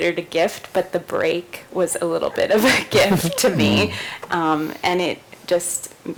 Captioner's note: laughs